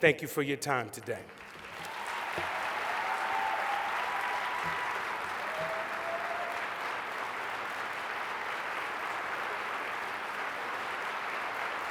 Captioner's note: applause